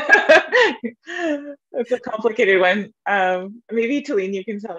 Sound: laughter

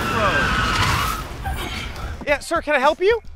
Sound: tires screech

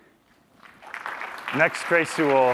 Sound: applause

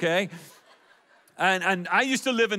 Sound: audience laughs

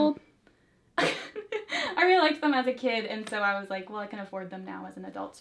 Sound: laughs

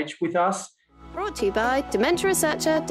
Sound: voiceover

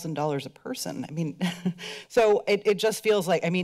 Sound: chuckles

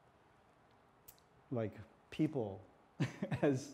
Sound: laughs

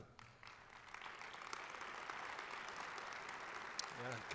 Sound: applause

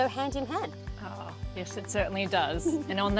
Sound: laughs

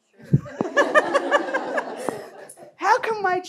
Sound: laughter

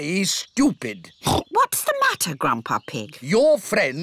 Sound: oinks

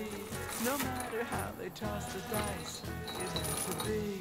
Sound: chain rattling

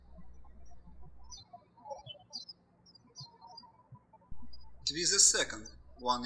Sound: birds chirping

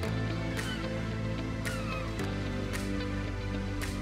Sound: seagulls squawk

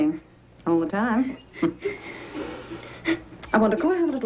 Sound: Hector crying

